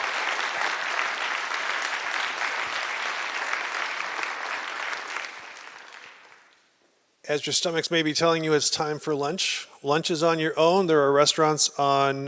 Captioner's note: applause